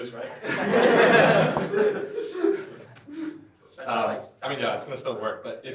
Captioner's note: laughter